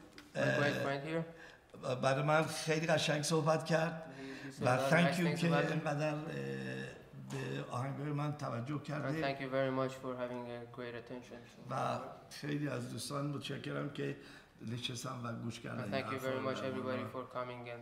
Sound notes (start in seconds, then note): 1.7 speaking in farsi; 6.4 speaking in farsi; 12.3 speaking in farsi